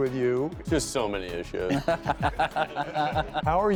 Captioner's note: laughing